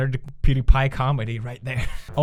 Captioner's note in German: kicher